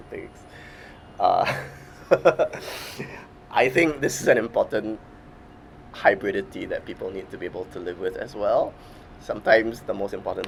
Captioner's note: laughs